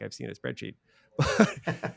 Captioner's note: laughing